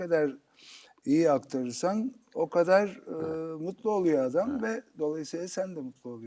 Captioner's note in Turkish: homurdanır